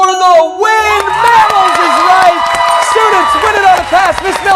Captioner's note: cheers and applause